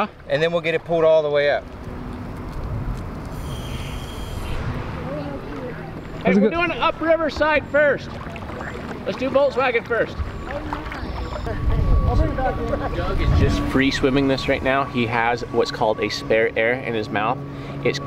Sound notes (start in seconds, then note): 6.6 male Voice; 12.2 background chatter